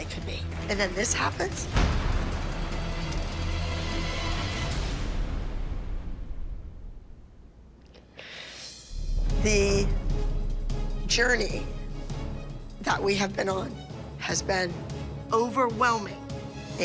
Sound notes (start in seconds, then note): 1.5 dramatic music playing; 8.1 sniffles